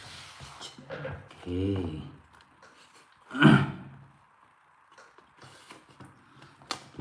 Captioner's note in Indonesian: berdehem